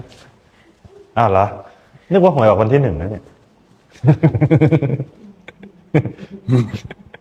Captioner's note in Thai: เสียงหัวเราะ